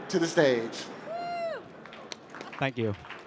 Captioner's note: cheering